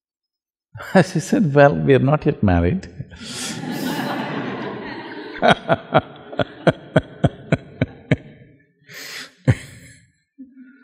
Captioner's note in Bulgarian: Смях